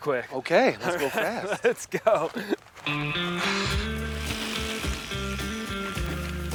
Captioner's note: chuckles; gentle country music